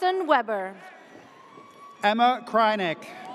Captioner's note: audience cheers